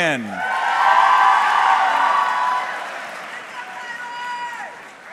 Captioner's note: audience cheering